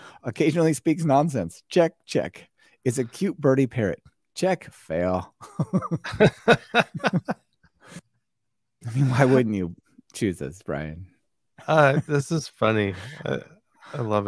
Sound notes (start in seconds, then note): 5.4 both laughing